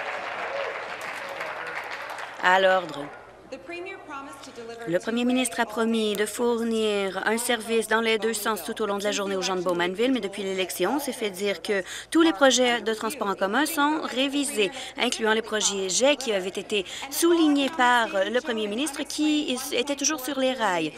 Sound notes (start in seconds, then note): 3.0 applause